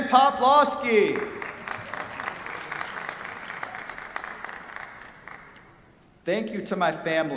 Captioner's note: applause